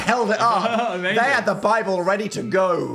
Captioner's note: laughs